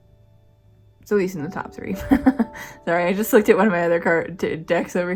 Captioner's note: laugh